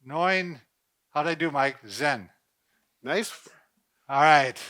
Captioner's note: speaking in foreign language